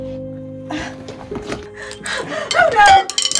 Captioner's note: body collapsing